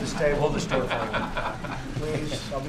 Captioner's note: laughter